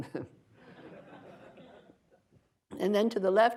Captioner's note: audience laughter